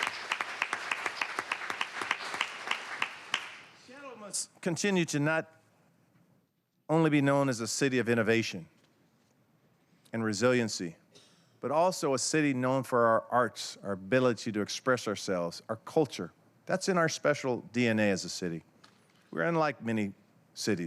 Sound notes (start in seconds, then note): 4.5 applause